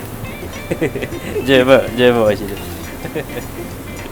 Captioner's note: laughs